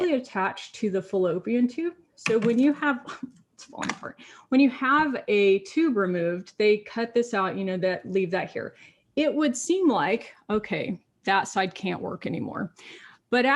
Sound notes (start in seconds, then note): 2.3 item clatters